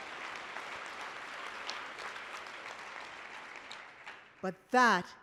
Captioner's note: applause